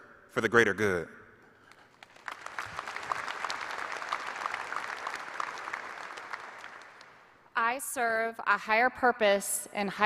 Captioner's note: applause